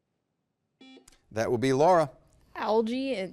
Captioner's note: buzzer beeps